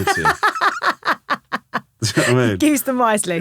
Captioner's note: laughing